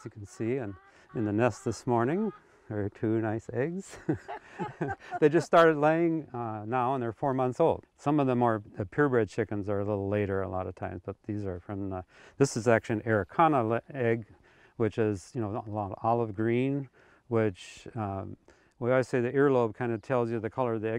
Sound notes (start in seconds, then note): 3.9 both chuckling